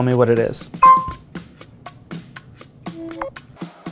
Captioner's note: pin beeping